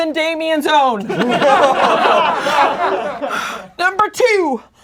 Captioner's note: laughing